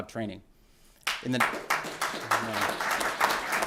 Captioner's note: applause